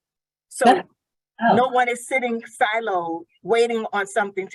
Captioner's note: faintly speaking